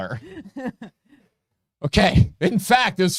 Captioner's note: laughing